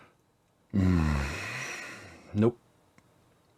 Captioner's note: sigh